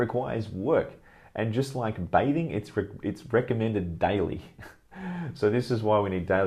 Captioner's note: laughs